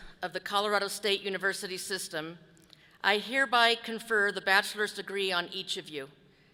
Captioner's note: none